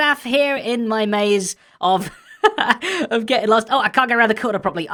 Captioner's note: chuckles